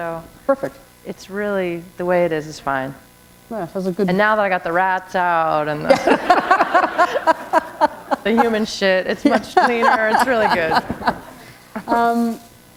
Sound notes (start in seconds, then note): 5.8 laughter